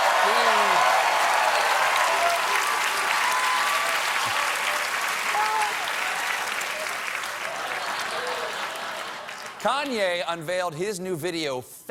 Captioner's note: applause